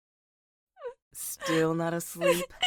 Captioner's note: crying softly